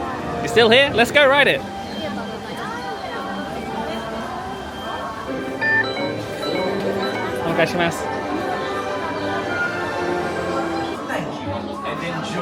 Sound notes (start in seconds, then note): 3.6 crowd murmuring; 9.3 light orchestral music